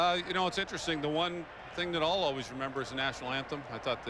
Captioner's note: cheering